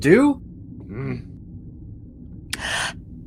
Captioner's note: sad grunt